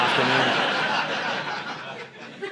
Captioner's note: audience laughing